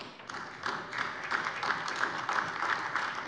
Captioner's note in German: Beifall - Fortsetzung des Namensaufrufs